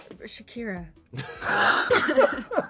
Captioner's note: laughing